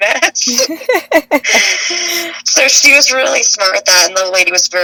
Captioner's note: laughs